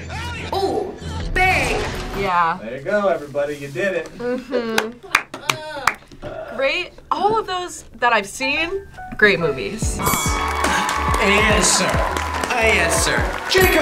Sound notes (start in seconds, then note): 9.9 bell rings; 10.0 crowd cheers